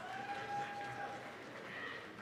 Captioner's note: applause, cheering